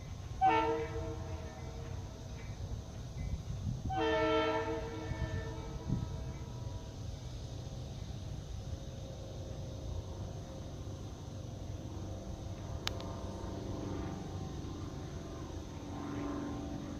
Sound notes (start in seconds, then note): 0.3 3rd Train Horn Blow; 3.8 4th Train Horn Blow